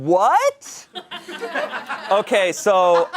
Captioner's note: audience laughing